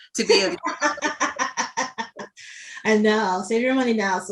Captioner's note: laughs